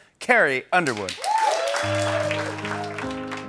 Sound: applause

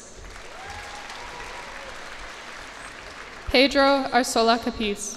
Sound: cheers and applause

